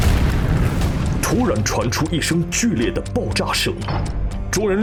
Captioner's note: a sudden loud explosion was heard